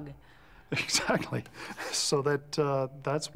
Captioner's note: chuckles